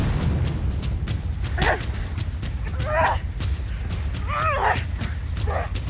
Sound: grunting

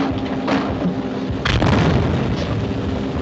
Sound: explosion

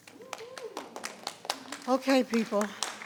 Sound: people clapping

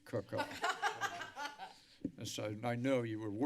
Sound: laughter

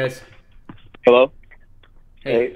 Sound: male Voice

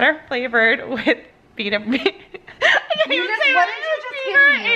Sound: laughing

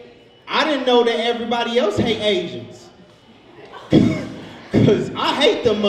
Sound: laughs

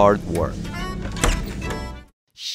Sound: door opens

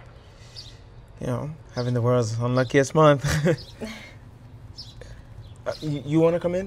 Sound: chuckles

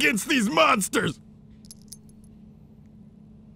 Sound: belt rustles

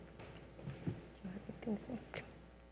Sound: speaks faintly

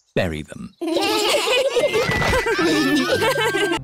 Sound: laughter

